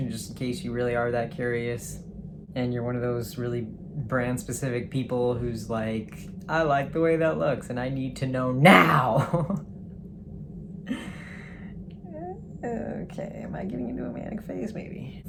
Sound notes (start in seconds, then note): 8.7 laughs; 9.9 muttering